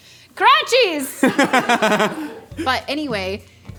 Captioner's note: laughing